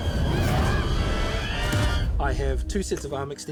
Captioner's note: roars; yelps